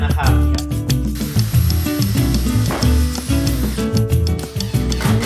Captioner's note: drilling